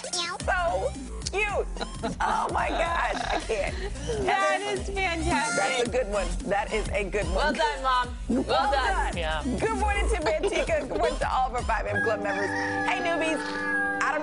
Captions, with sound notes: [ LAUGHTER ]SO CUTE. THAT IS FANTASTIC.